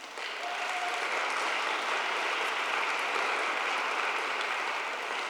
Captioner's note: audience applauding